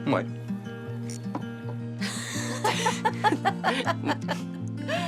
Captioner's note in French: rire